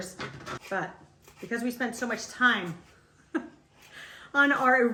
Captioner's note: laughs